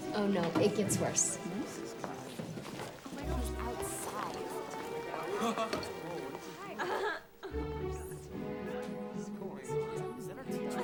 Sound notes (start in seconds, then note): 5.1 curious music; 5.1 students chattering